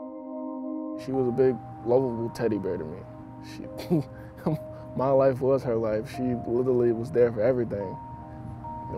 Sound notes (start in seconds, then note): 3.7 giggles